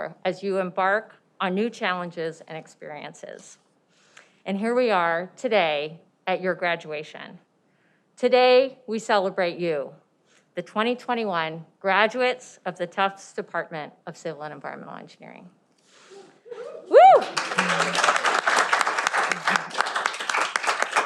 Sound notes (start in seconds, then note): 16.5 cheering